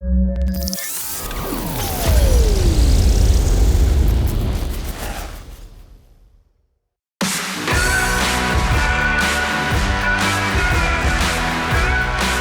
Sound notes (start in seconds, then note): 0.5 machine sounds